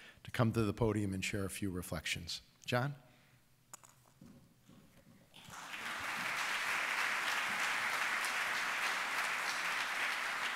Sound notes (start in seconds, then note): 5.4 audience applauding